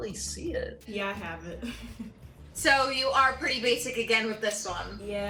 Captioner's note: chuckles